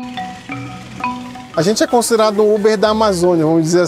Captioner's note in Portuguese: Motor de barco